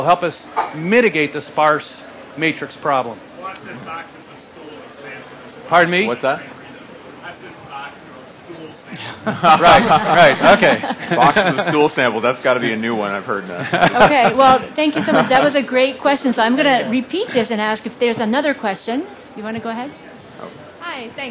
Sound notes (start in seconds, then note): 7.7 low volume response; 9.0 laughter